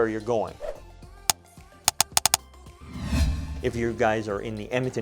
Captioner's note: clicking